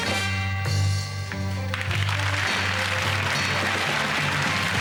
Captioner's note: audience applauds